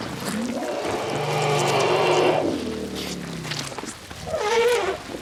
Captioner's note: chuffing and trumpeting